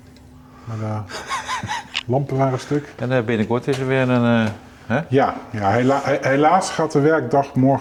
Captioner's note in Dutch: gelach